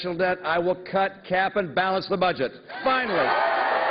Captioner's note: cheers and applause